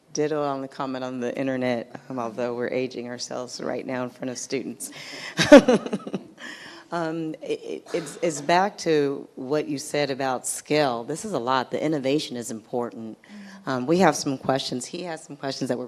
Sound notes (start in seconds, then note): 5.2 chuckles